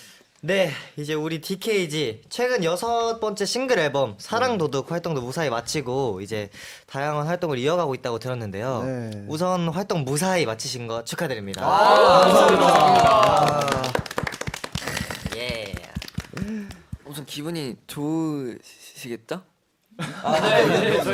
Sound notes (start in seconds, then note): 14.1 tepuk